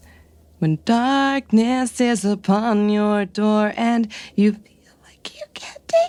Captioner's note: singing; whispering